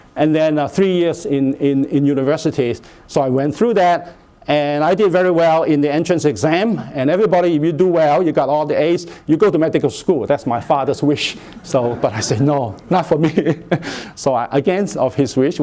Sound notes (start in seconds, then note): 11.6 laughter